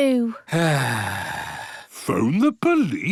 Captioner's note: sighs